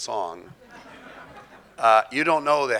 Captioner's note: audience laughing